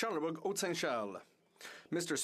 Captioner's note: speaking in French